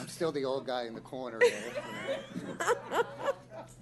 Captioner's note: laughter